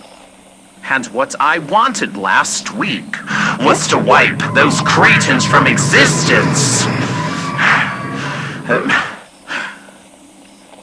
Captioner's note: wendigo voice